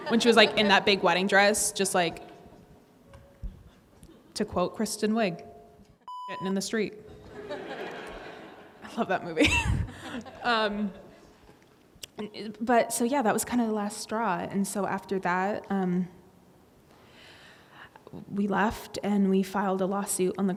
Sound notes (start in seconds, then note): 7.2 audience laughing; 9.4 laughs